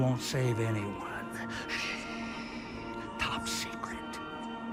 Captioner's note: whispering